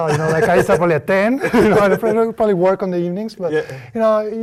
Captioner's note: laugh